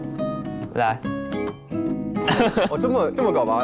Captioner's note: introverts clink glasses